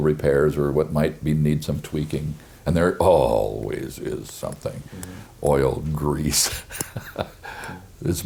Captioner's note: chuckles